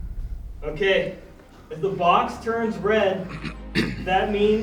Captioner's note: clears throat